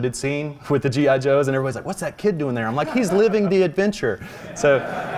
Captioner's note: laughs